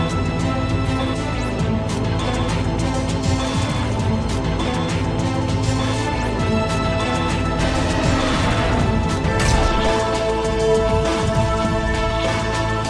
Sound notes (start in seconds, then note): 7.6 roars; 8.8 upbeat music continues